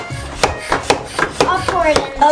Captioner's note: pumping noise